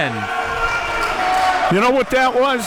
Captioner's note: audience applauding and cheering